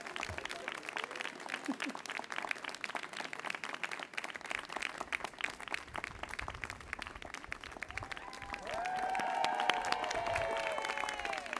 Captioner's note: applause